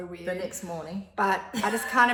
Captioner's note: laughs